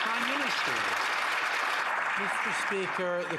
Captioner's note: some Applause